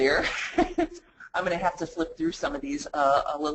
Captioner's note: laughs